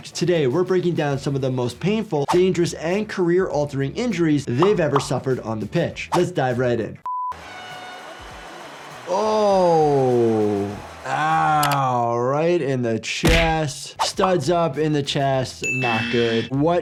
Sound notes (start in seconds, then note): 7.1 transition beeps; 7.3 horn blows